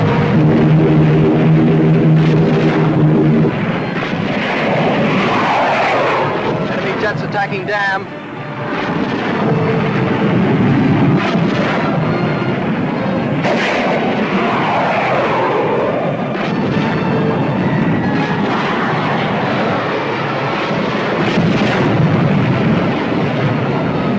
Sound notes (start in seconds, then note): 0.1 plane engines roaring; 4.8 planes whooshing; 9.6 plane whooshing; 16.7 suspenseful music; 21.1 weapons firing